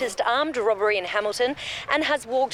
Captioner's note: television